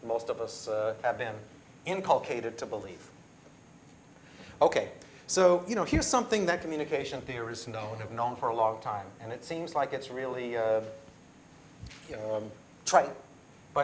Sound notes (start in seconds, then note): none